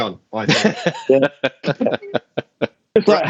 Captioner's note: laughter